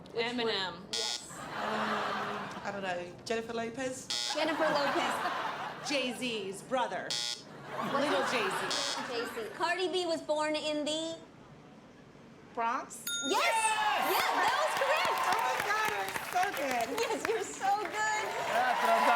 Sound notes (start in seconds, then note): 0.9 buzzer; 4.3 laughter; 7.0 buzzer; 13.4 cheers and applause